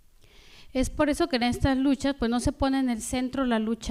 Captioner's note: speaking spanish